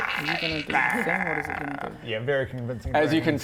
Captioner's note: muttering